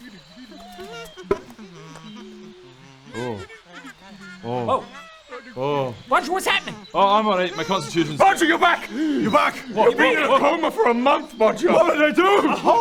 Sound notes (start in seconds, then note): 0.7 oblivious mushroom noises